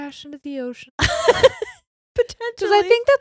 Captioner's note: both laughing